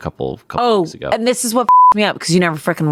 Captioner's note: beep